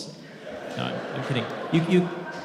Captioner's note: audience laughing